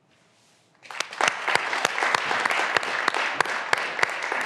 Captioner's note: graduands applauding